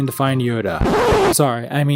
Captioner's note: record scratch